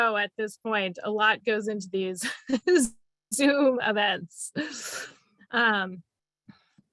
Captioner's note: laughing